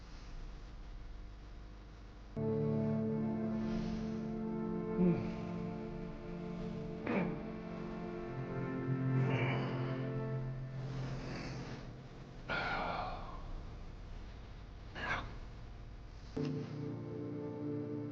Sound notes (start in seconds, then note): 7.6 Jim sighs; 12.4 Jim sighs; 12.5 Jim grumbles